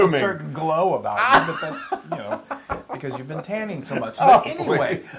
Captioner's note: laugh